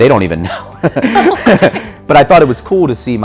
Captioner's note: laughs